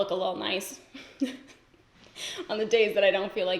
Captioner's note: giggles